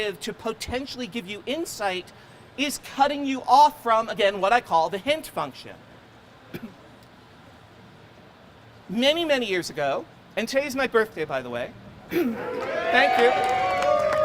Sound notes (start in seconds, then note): 12.4 crowd cheers and applauds